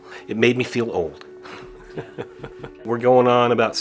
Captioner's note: chuckles